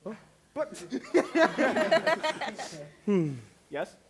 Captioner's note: laughter